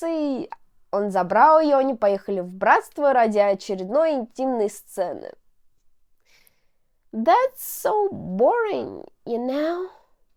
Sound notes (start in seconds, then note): none